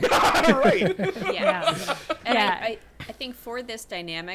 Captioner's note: laughing